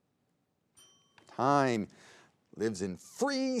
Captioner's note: bell dings